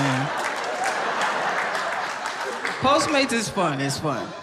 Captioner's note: audience laughing and applauding